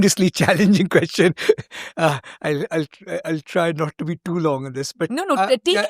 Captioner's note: chuckles